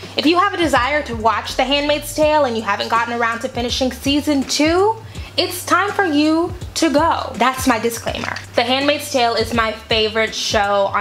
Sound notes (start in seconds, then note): none